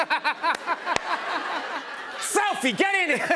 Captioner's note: laughter